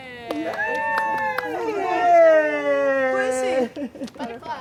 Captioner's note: someone claps